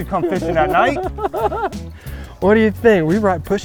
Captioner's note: laughing